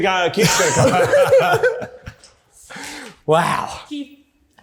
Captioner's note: laughing